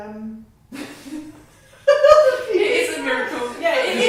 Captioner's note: laughter